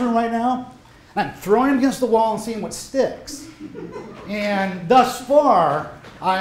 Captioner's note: laughter